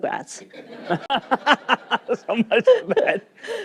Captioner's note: laughter